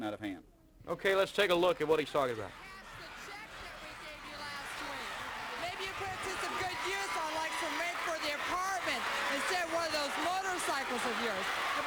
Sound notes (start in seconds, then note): 5.7 crowd cheering